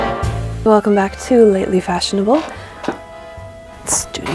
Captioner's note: sultry jazzy outro music; creak